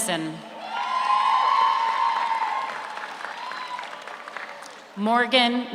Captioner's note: audience cheers; audience applauds